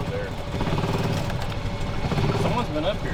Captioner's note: car rumbling